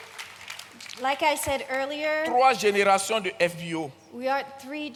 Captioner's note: continues in French; continues in French